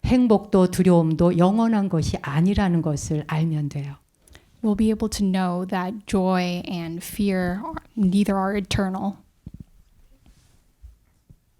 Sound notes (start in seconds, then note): 0.6 speaking in Korean